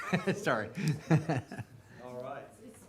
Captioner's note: chuckling